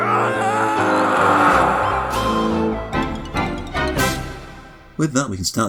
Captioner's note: Pac-Man scream of despair